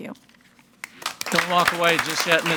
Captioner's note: audience applauding